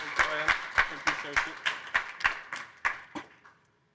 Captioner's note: applause